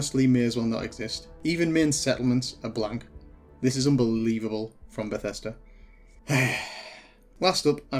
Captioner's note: exasperated sigh